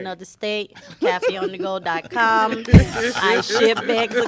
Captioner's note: laughter